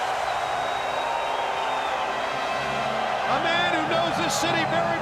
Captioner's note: crowd cheering